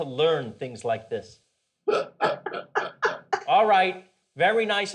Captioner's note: parents laughing